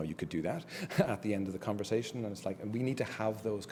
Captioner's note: laugh